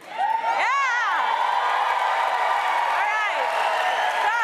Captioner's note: cheers and applause